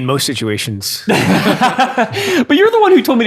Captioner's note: laughing